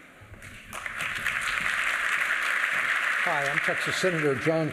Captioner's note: applause